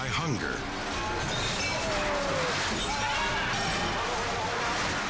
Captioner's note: glass shattering